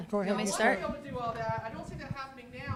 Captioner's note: voiceover